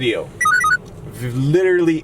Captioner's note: beeps